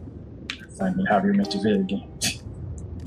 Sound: scoffs

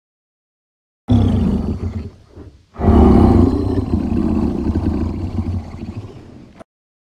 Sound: sound of sleeping monster

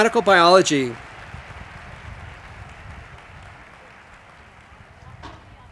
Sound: audience applauding

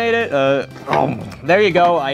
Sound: chomping

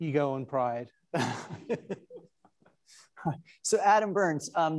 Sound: attendees laughing

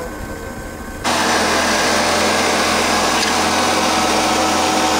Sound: machine whirring

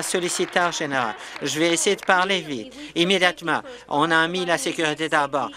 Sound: applause

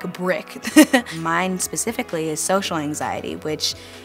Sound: laughs

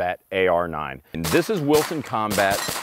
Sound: gun firing

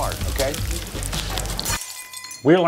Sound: glass shattering

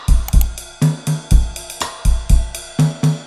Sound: perky music; clicking

